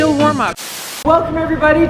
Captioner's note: static